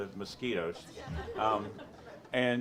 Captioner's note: audience laughs